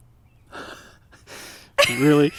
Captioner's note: laughing